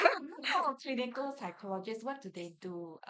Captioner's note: everyone laughs